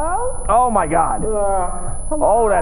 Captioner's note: high pitched ringing